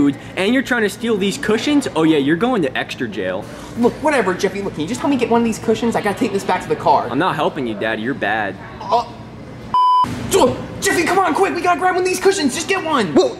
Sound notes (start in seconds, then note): 9.7 beep